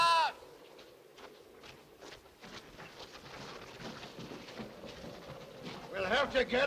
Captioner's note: scrambling footsteps